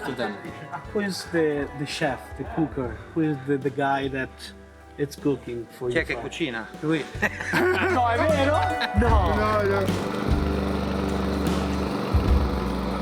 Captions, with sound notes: Who's the chef, the cooker with the guy that it's cooking for... - (speaking Italian) (laughter) (lawnmower starts)